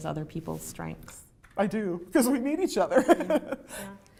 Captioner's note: laughter